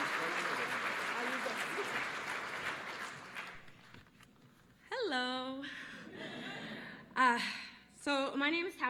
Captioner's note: applause